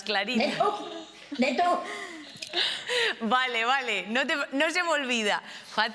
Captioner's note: laughs